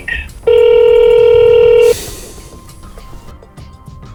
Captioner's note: phone ringing